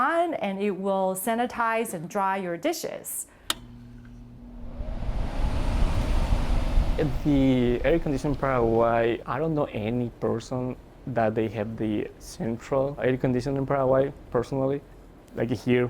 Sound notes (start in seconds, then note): 4.2 air flowing